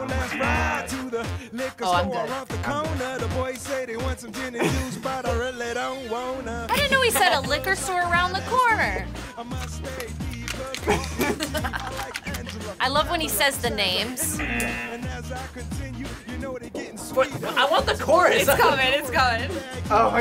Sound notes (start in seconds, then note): 1.0 buzzer; 10.6 both laugh; 14.4 buzzer